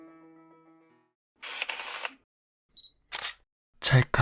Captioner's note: camera whirring